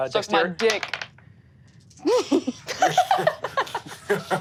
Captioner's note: laughs